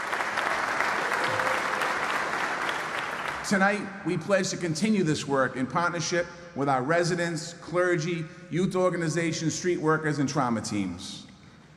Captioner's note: applause